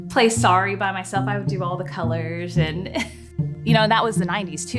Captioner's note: chuckles